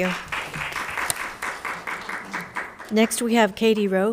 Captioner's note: crowd applauding